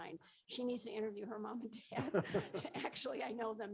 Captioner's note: laughs